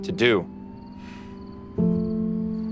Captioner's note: sighs